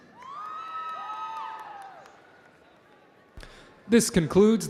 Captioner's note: audience cheering